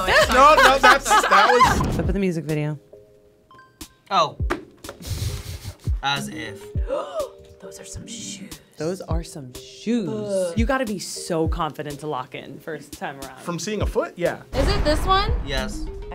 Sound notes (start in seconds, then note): 0.0 laughing; 6.8 gasps